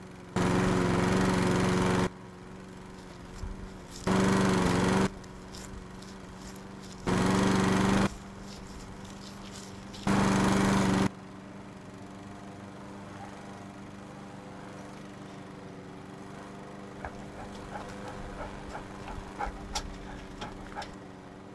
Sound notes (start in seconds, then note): 0.3 lawn mower engine; 4.0 lawn mower engine loud; 10.0 lawn mower engine VERY LOUD; 16.9 dog panting